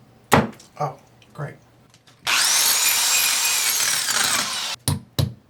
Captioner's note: hammer banging; drill screaming; hammer banging